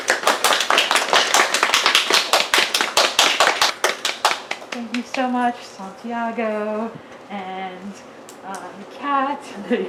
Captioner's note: applause